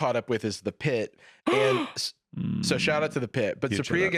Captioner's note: gasps